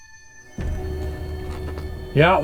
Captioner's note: dramatic sound